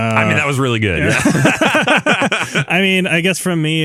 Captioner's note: both laughing